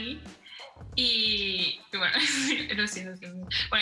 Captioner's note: laughs